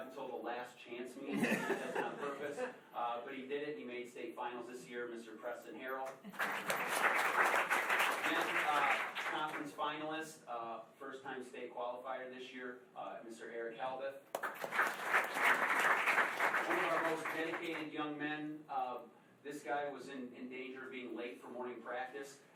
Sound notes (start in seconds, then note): 6.1 applause; 14.3 applause